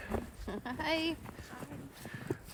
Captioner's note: laughs